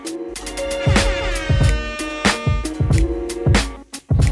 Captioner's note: airhorn blares